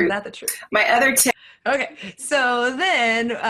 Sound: laughs

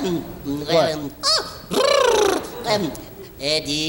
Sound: gigio blows a raspberry

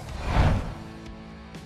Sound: graphic swooshing; upbeat music

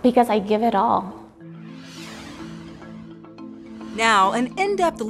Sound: ambient upbeat music; whooshing

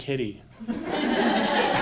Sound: laughter

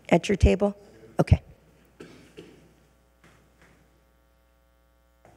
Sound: speaking faintly

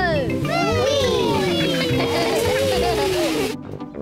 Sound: giggling

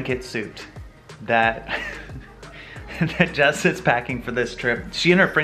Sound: chuckles

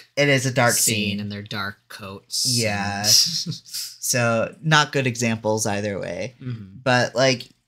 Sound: laughs

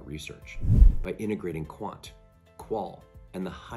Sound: swoosh

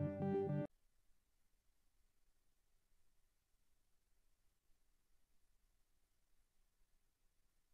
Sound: silence

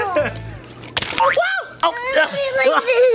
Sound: laughs; boing

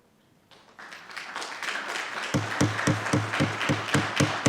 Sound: audience applauding

